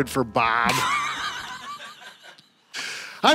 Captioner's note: laughing